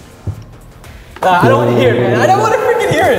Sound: gargles

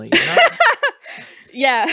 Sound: laughter; laughing

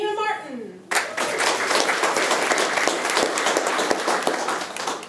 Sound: room applauds

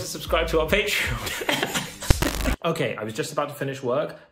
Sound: laughing

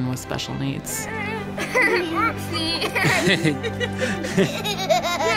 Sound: family laughing

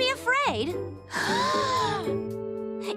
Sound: all gasping

